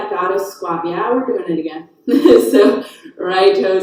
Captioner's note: chuckles